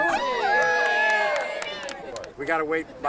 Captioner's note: people cheering